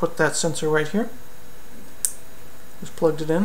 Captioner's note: click